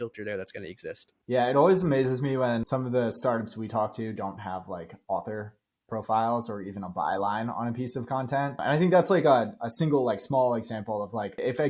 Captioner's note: speaking